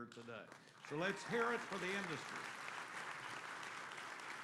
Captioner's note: applause